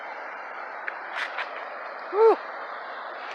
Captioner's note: feet sliding